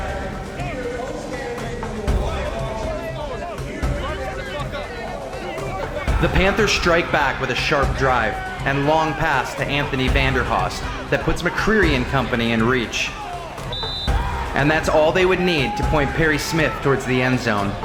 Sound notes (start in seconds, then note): 12.5 refs whistles and Player shouting